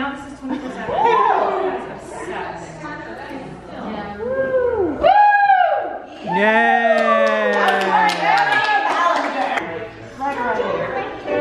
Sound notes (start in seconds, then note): 6.9 clapping; 7.3 cheering